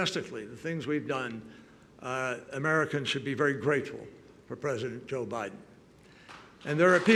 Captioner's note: applause